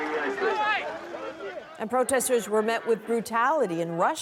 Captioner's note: chants